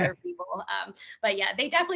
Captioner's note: laughing